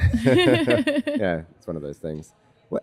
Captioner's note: both laugh